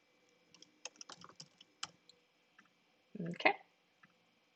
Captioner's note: keyboard rattling